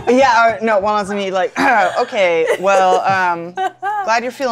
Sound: clears throat

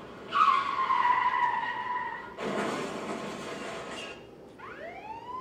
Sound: car crash sound; sirens

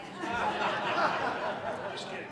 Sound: laughter

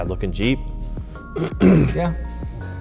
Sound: clears throat

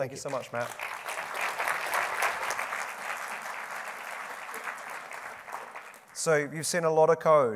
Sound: applause

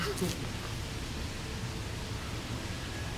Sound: laughs

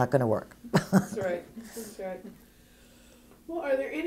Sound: laugh

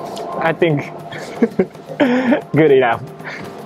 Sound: chuckles

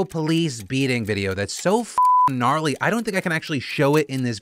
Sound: beep

